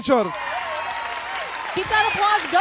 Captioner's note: audience cheering